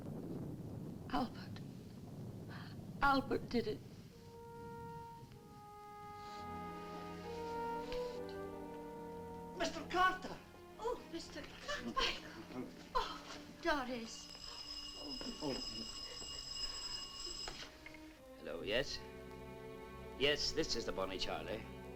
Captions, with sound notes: - Albert. Albert did it! - Mr. Carter! - Oh Mr. Carter! Oh Doris. (phone ringing) - Hello yes. Yes this is the Bonnie Charlie.